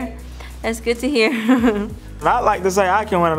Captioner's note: chuckles